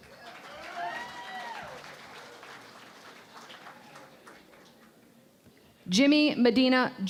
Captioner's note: cheering and Applause